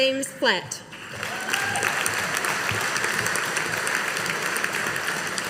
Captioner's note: audience applauding